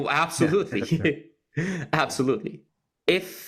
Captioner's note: laugh